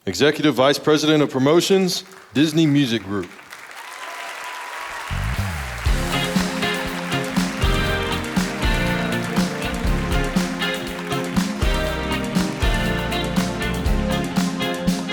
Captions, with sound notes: Executive Vice President of Promotions, Disney Music Group. (audience applauding) (upbeat music)